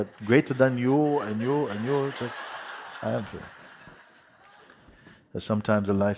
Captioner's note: laughter